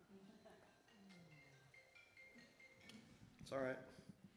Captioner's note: cell phone ringtone